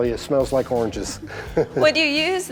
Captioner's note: laughing